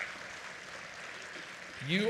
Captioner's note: applause